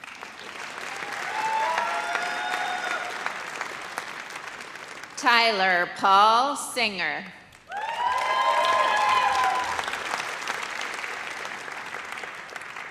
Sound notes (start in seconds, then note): 0.0 audience applauds; 7.6 audience cheers